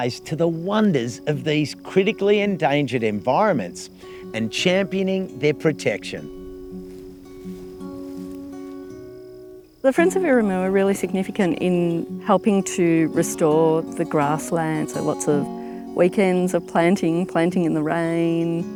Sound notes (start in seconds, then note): 6.4 footsteps through grass; 8.3 gentle acoustic music plays